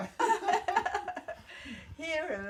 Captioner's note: laughing